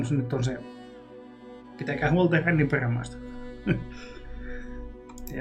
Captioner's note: chuckles